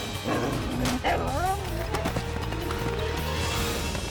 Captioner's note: fox squeals